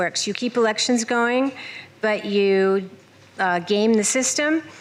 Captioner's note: none